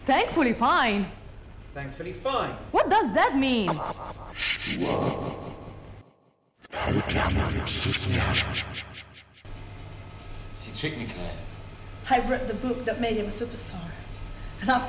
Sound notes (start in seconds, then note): 4.0 distorted voice in foreign language